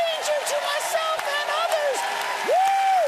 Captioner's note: cheers and applause